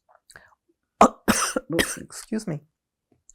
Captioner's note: coughing